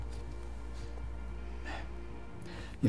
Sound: breathes

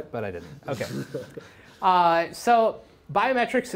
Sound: laughter

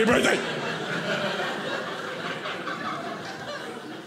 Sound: audience laughing

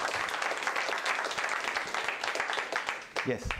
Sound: applause

